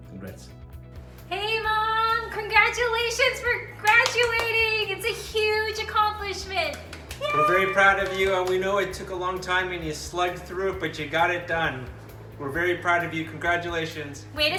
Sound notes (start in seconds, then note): 7.0 cheering